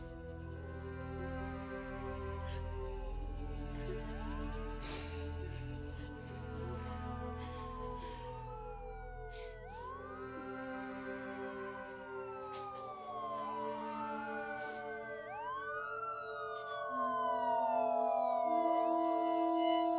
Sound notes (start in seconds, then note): 9.1 sirens blaring; 9.8 solemn music